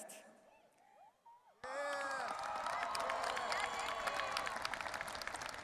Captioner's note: crowd cheering